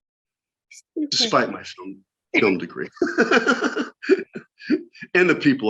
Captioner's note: laughter